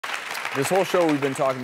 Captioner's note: audience clapping